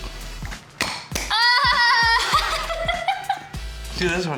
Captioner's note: laughs